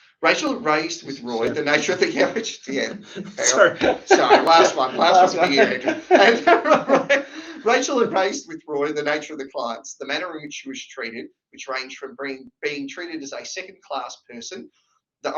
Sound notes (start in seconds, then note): 7.0 laughing